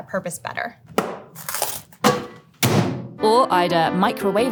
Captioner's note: fries pack thudding; box tearing